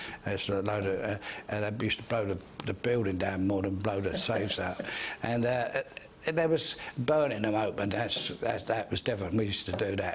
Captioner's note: laughs off screen